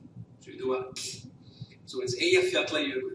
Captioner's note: hiss